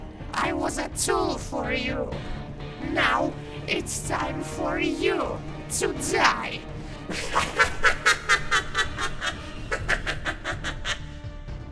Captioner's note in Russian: злобный смех